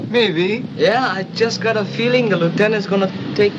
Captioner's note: vehicle approaches